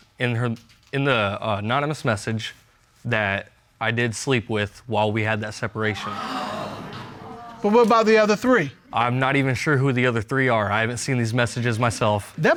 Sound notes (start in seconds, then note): 5.9 audience gasps